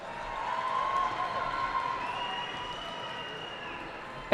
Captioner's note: cheering